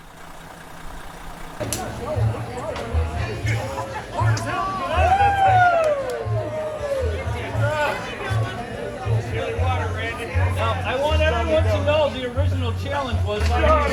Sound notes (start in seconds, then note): 5.1 people cheering